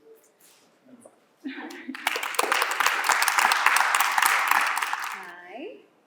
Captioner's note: applause